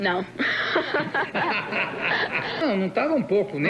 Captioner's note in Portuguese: risos